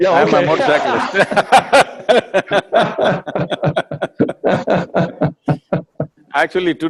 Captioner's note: both laugh